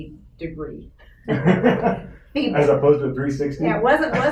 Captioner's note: laughs